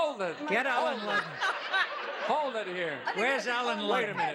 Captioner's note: laughs